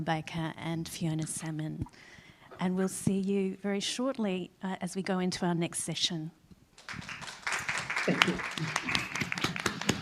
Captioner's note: applause